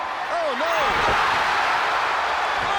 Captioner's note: crowd cheers